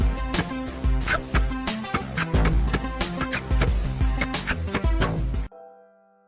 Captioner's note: tries to beatbox